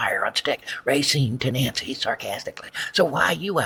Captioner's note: to Nancy/sarcastically